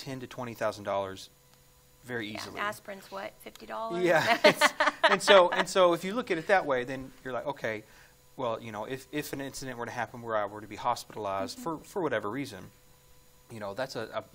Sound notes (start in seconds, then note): 4.0 laughs